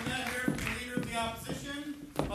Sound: voiceover

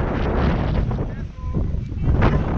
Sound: wind sounds

